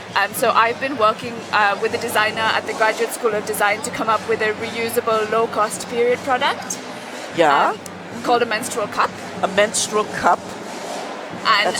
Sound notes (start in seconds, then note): none